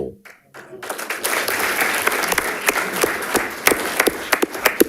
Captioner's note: audience applauding